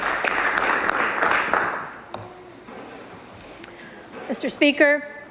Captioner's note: applause